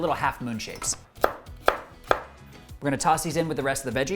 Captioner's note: knife chopping